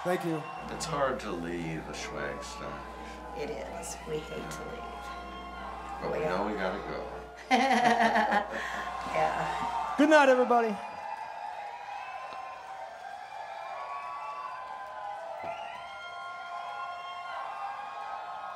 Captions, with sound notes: Thank you. - It's hard to leave a Schwagstock. - It is, we hate to leave. - But we know we gotta go. (laughing) - Yeah. - Goodnight, everybody. (crowd cheering)